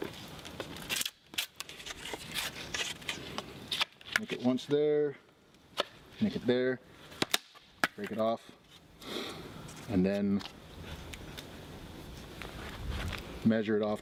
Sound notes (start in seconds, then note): 3.1 wood scraping